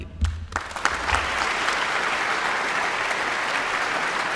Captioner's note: audience applauds